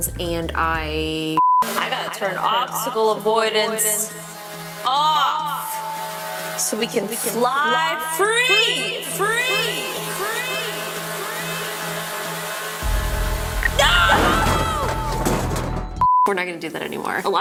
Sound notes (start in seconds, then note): 1.3 video beeping; 9.9 drone whirring; 15.2 video beeping